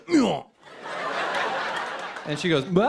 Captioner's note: laughter